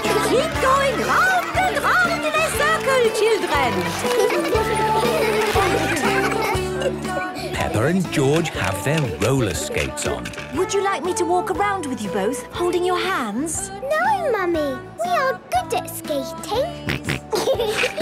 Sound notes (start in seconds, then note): 3.9 laughter; 6.7 giggling; 16.8 snorting and giggling